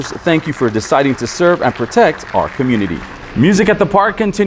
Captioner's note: crowd applauding